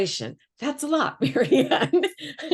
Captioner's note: laughs